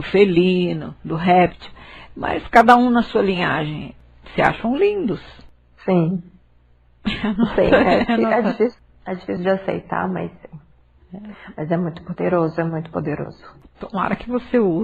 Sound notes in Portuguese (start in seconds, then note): 7.0 Risos